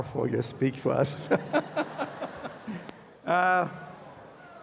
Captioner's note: laughter